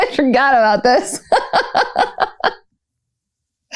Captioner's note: laughter